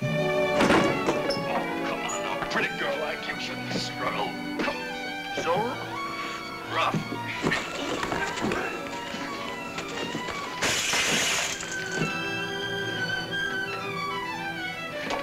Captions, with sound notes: (dramatic music) A pretty girl like you shouldn't struggle. So rough. (tense music) (bottle shatters) (dramatic music)